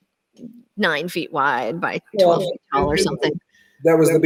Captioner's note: static drowns out